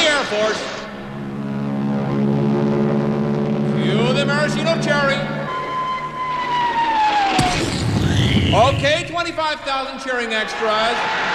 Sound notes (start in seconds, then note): 1.4 airplanes Flying; 5.4 whistling; 7.3 explosion